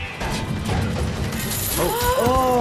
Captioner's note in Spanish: traqueteo de la cadena